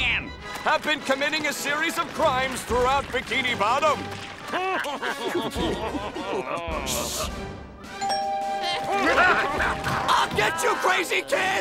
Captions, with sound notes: Have been committing a series of crimes throughout Bikini Bottom. [laughing] Shh. [doorbell ringing, laughing] I'll get you crazy kids!